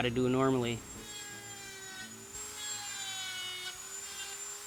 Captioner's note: buzzing and whirring